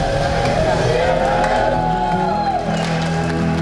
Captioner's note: cheering; gentle romantic music